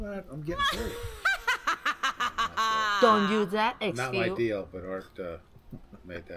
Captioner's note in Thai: เสียงหัวเราะ